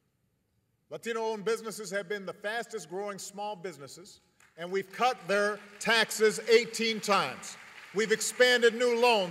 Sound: applause

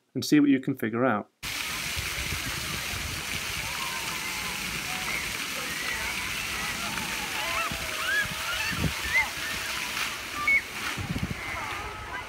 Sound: sounds of water and children playing

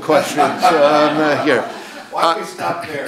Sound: audience laughs

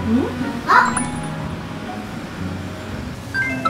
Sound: sounds like something is broken

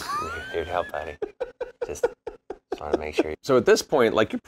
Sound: laughing

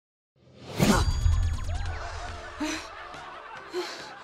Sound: Mikey gasps; breathing heavily

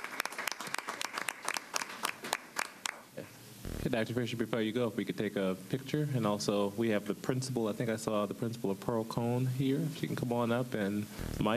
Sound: applause

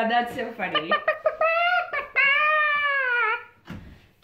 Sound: clucking

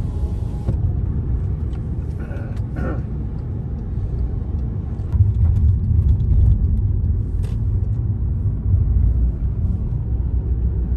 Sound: car driving noises

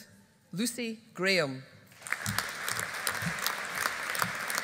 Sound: audience applauding

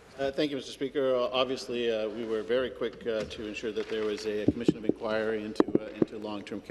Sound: some Applause

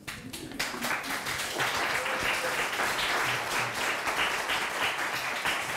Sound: applause

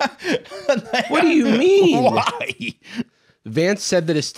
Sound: laughing

